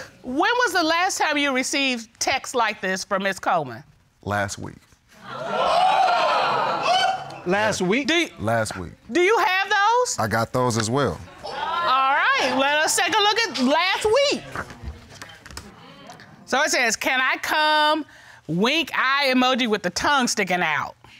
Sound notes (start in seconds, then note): 5.4 audience gasping